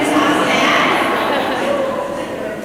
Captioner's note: laughter